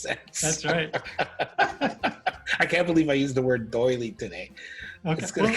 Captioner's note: laughter